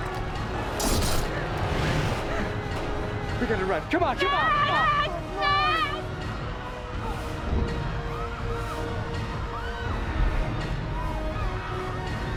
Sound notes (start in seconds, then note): 4.2 crying; 6.4 people panicking